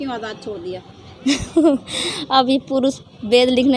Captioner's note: laughs